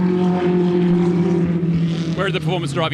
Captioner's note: car engine roars